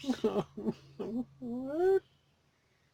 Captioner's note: sobbing